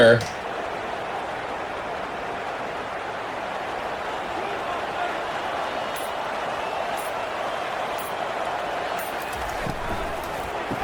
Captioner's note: crowd Noises